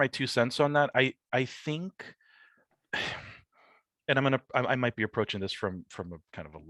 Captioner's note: sighs